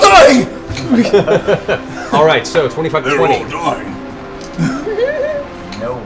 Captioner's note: laughs